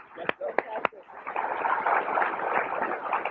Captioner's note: applause